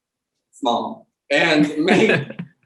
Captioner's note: laughs